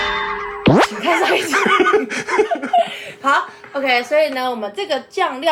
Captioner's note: laughs